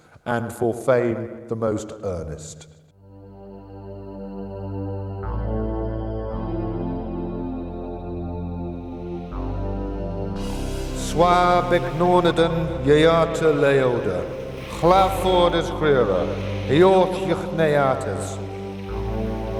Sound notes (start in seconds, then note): 3.5 mysterious music; 11.4 speaking in foreign language; 11.4 waves crashing